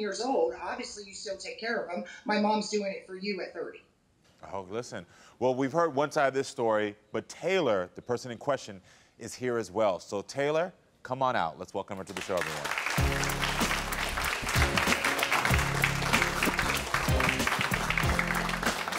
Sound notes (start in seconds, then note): 12.0 audience applauding; 12.9 upbeat music